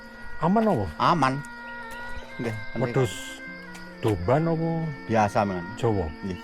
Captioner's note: Javanese